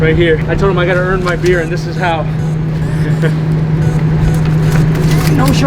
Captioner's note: laughing